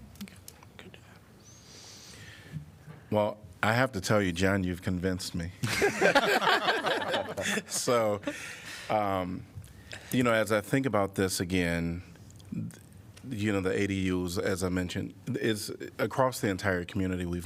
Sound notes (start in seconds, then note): 5.6 laughter